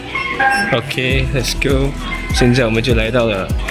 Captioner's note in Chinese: 门打开了